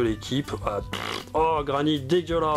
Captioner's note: fart sound